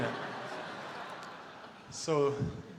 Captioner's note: audience laughter